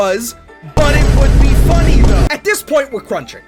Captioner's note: repeated Vine booms